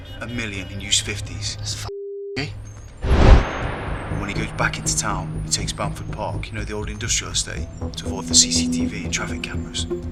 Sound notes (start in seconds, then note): 3.0 wind whooshing